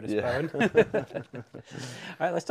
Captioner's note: laughter